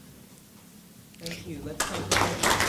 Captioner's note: applause